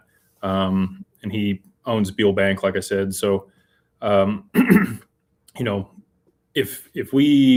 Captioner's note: clears throat